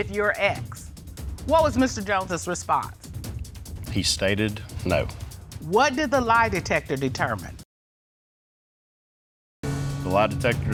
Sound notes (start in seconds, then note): none